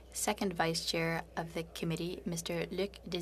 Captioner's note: speaking French